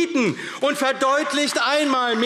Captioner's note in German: Beifall AfD